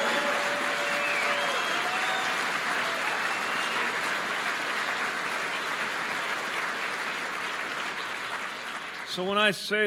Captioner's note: applause